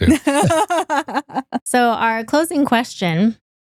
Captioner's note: laughing